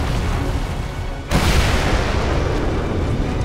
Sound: explodes

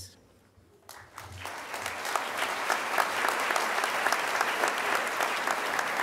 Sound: crowd applause

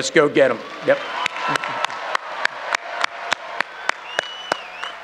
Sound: audience cheering

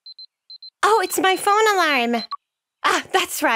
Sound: alarm

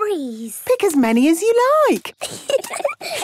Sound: giggling

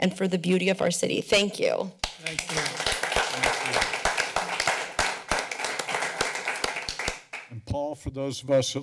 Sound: applause

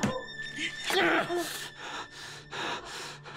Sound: gasping

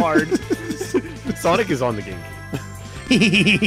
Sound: laughs

